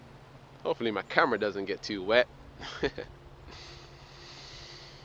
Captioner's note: laughs